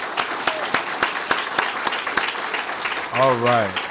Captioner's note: applause